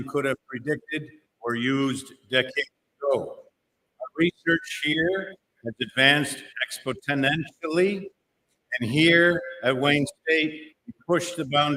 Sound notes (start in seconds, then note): none